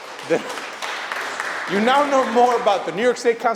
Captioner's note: applause